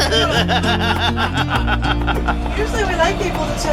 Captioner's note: laughter